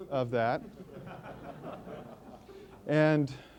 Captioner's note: laughter